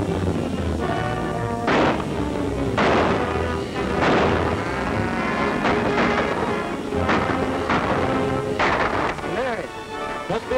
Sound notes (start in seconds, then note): 2.7 gun shots